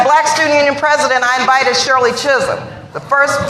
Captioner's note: laughter